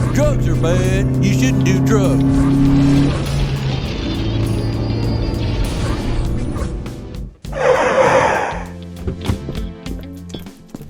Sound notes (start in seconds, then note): 7.4 car squeals to a halt; 9.0 door opens; 9.5 footsteps